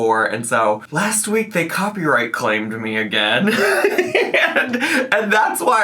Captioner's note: laughs